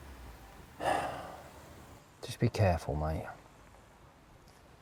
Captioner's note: sighs